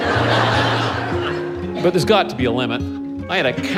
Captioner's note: laughter